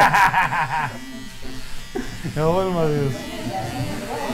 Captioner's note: laughing